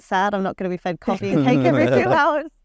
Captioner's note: everyone laughs